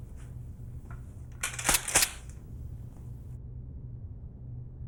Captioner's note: gun clicks